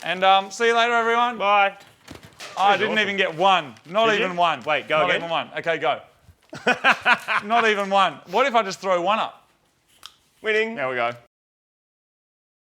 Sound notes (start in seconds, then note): 6.5 laughter